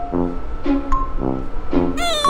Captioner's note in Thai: ร้องไห้